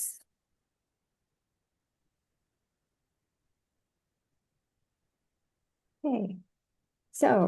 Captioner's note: silence